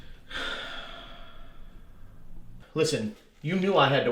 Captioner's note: Jack sighs